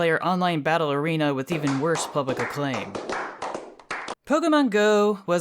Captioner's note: sarcastic clapping